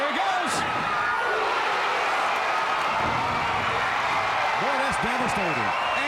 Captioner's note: fans cheering